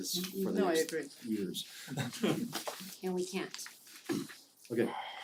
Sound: laugh

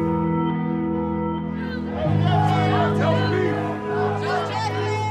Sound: people chanting

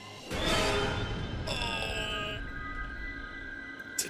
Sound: groans

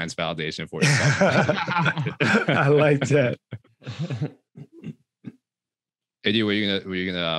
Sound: all laughing

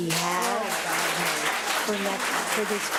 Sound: public applauding

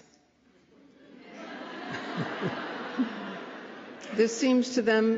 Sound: laughter

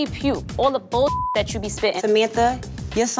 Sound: beep

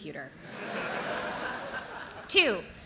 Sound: audience laughs

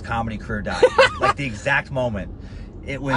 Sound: laughter

